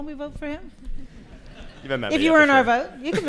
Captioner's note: laughter